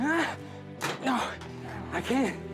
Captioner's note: groaning